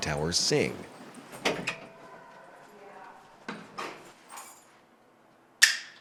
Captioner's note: door clicks; buckle clicks